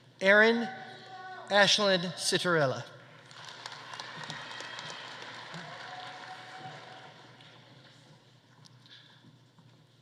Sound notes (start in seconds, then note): 3.2 audience applauding; 4.0 audience cheering